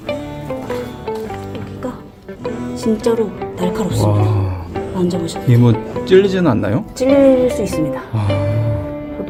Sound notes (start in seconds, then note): 6.4 worried